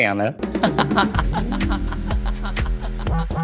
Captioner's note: laughter